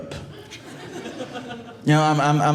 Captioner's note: audience laughing